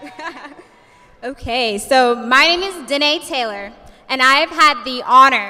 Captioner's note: laughs